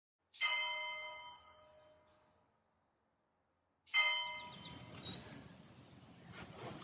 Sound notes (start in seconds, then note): 0.5 bell tolling